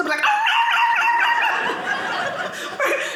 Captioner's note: barking; audience laughing